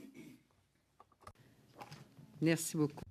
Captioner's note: speaking French